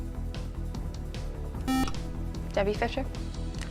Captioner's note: buzzer